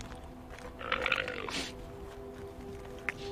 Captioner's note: llama bleating